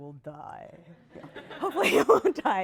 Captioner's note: laughter